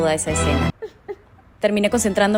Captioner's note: cries in spanish